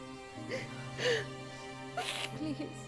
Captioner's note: Meher crying